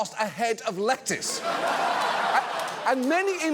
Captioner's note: audience laughs